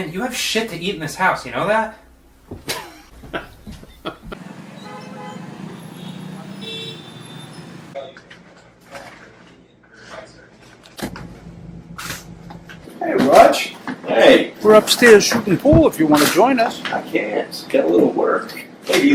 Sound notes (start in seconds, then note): 2.6 Roger chuckles; 4.7 traffic humming; 6.6 car horn honks; 8.2 group chattering